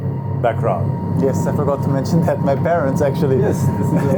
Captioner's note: laughts